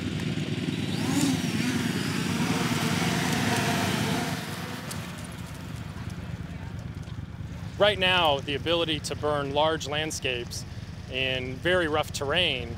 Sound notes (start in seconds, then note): 6.6 drone taking off and flying